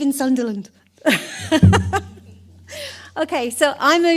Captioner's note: she laughs